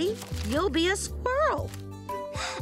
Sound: gasp

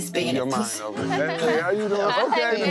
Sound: laughing

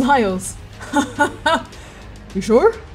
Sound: laughing

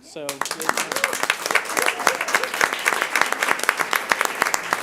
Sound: audience applauding

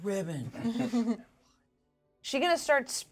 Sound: speaker chuckles

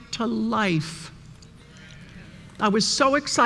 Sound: murmuring

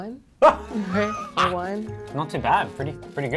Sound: laughs

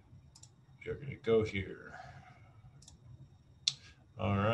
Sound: mouse clicks

